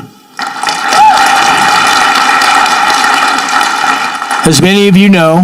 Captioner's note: audience clapping